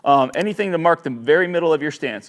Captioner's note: mouse clicks